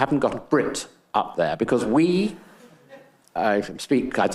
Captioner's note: attendees laughing